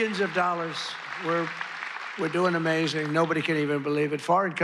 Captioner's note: applause